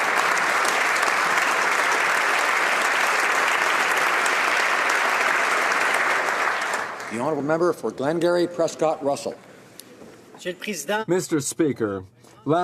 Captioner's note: applause